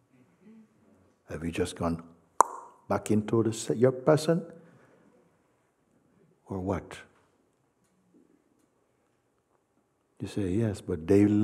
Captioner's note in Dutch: klikgeluid